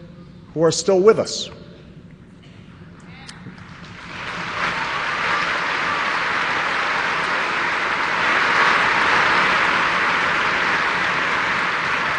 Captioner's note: applause